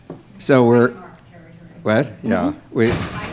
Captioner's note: female speaking off microphone